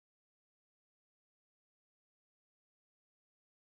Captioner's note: traffic noises